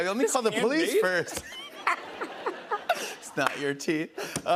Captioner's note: laughter